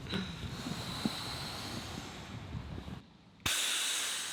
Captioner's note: air hissing